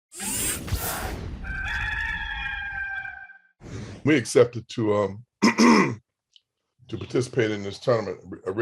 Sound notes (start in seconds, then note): 0.1 tech sound effects; 1.4 rooster crows